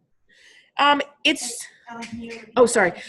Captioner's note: woman speaking faintly